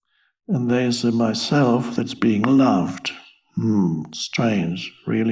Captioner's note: moans